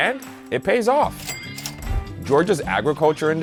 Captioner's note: cash register ringing